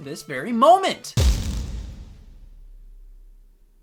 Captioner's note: boom